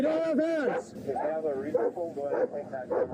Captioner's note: radio chatter